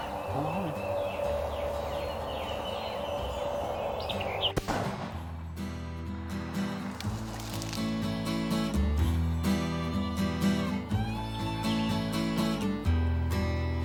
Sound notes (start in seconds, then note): 2.6 country music; 4.5 gun fires